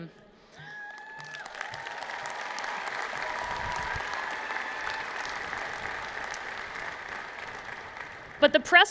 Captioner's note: cheers and Applause